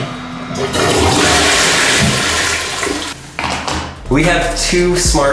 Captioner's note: toilet flushing